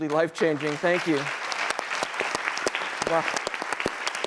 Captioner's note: applause